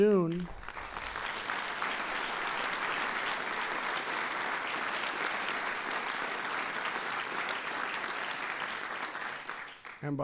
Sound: applause

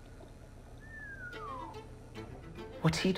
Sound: whistle

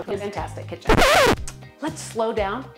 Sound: record scratches

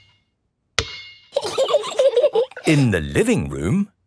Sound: giggling

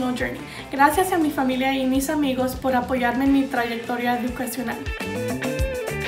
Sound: speaks in foreign language

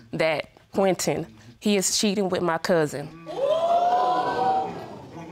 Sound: audience gasps

